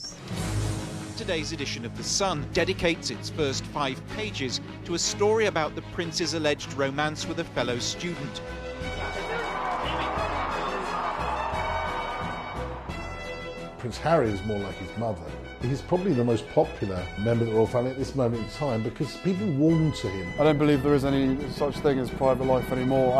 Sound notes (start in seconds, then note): 0.3 voiceover; 8.5 crowd cheering